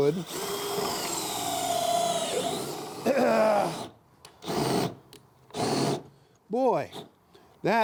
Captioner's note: drill whirring